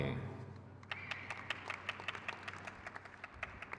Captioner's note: crowd cheers